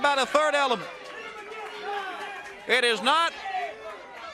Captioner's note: crowd chatter